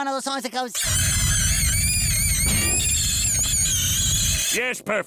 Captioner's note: high-pitched screeching